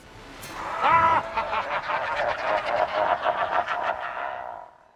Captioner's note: evil laugh